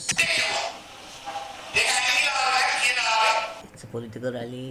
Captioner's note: screaming at the podium